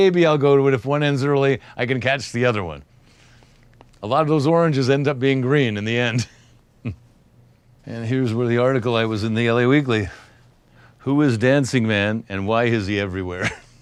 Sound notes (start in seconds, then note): 6.8 chuckles